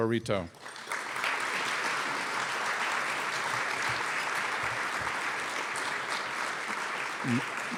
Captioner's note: applause